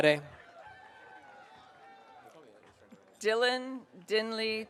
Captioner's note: audience cheering